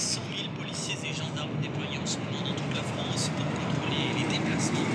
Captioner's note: radio